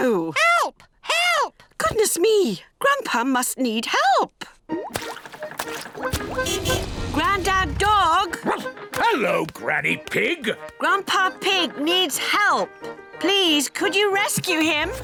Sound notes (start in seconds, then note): 6.3 car horn honking; 8.4 barks